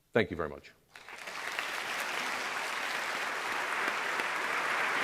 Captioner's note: applause